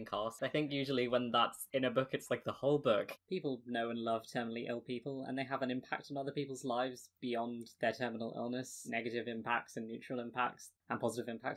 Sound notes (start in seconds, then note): none